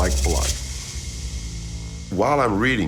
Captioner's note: suspenseful rattling